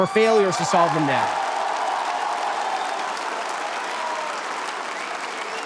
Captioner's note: audience cheers